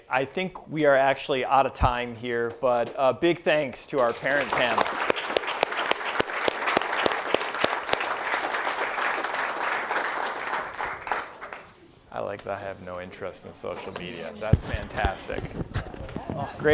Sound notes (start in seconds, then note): 3.8 applause